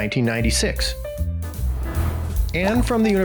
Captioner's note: playful piano music; graphics swooshing